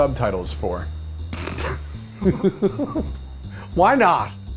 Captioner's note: laughs